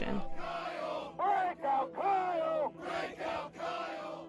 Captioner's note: chanting